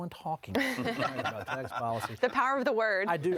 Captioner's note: laughing